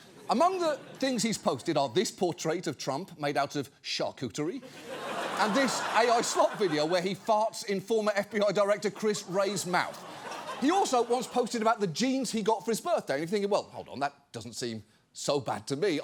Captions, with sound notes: Among the things he's posted are this portrait of Trump -made out of charcuterie... -(AUDIENCE LAUGHS) and this AI slop video where he farts in former FBI director Chris Wray's mouth. He also once posted about the jeans he got for his birthday, and if you're thinking, "Well, hold on, that doesn't seem so bad to me,"